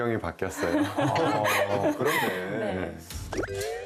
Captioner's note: haha